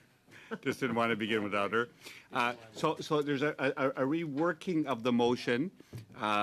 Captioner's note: laughter